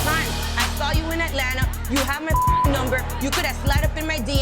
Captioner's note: beep